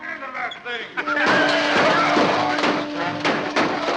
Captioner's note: engine starts loudly